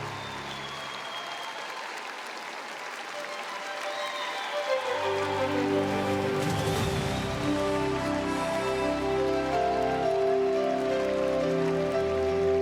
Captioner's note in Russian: ликование